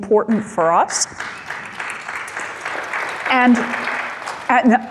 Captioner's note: light applauding